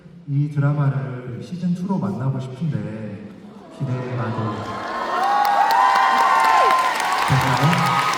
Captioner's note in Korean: 환호